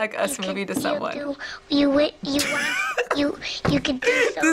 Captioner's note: laughs